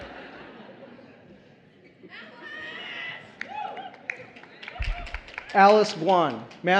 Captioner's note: applause